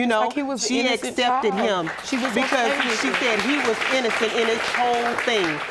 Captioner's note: audience applauding